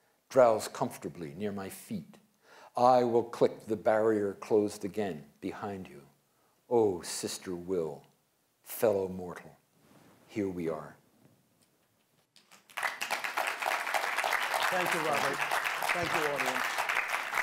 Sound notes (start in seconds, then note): 12.4 applause